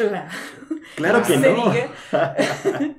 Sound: laughter

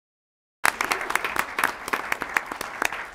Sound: applause

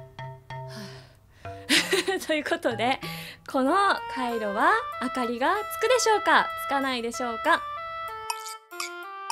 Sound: sighs

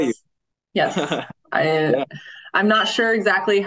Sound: laughing

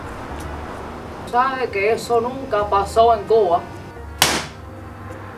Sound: speaks Spanish; smack

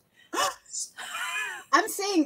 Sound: gasps; chuckling

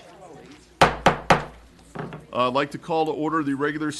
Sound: gavel

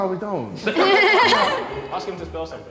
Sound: all laughing

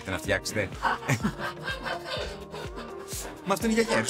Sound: laughs

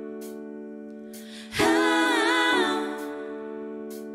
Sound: higher pitch

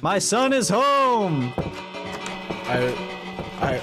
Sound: bell Ringing

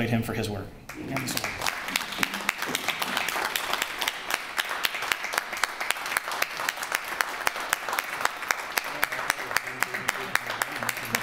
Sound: applause

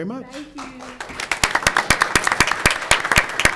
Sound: all clapping

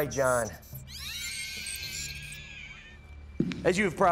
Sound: shrieker noises

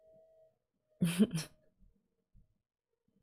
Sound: chuckles

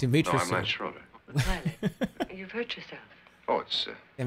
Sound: chuckles

